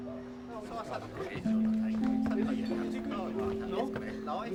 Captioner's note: people chattering; soft music